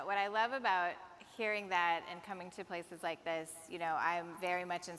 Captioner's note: none